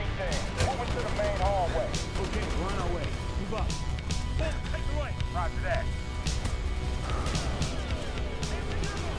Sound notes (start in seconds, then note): 0.4 rapid gunshots